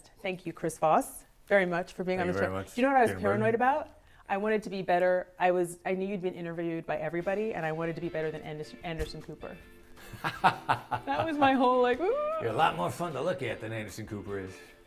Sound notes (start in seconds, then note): 10.0 laughs